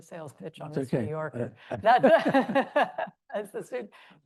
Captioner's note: laughs